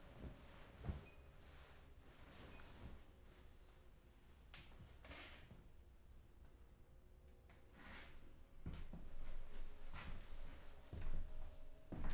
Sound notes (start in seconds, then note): none